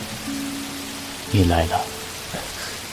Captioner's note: Liqing coughs